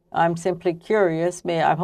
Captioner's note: speaking French